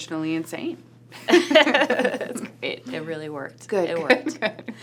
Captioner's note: laughs